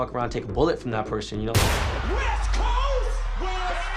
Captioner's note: gunshots